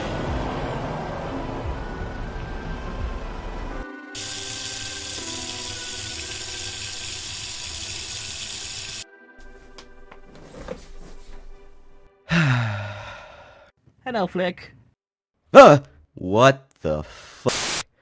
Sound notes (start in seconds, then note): 4.1 running water; 12.3 exhale